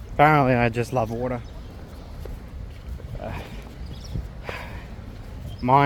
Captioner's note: sigh